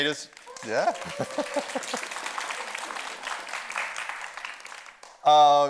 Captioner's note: audience cheers and applauds